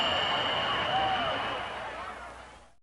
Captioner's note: fireworks